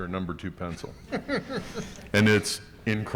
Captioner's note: laughing